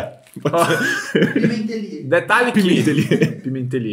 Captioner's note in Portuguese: risos